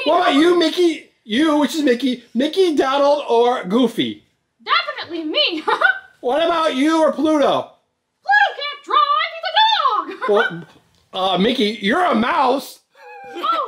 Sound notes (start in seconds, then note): 5.5 laughs; 10.0 laughs; 12.9 laughs